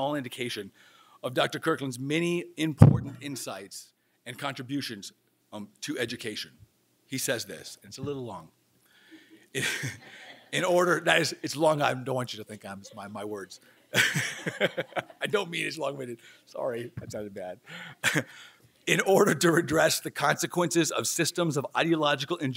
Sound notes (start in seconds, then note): 9.5 chuckles; 12.6 laughing